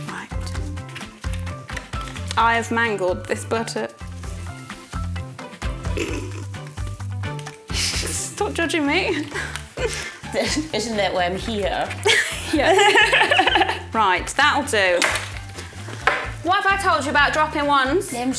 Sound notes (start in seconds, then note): 12.0 laughs; 15.0 wand dropping